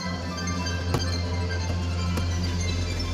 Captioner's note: taps